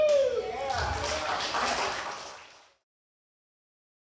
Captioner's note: audience cheers